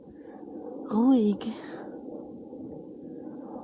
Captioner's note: airplane sounds